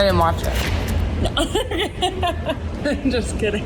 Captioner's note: laughs